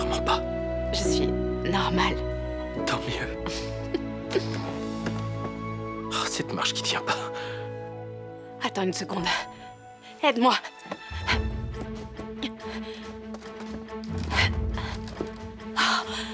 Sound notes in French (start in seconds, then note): 4.0 grincement du tableau